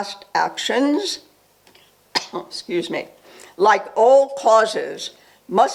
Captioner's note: coughs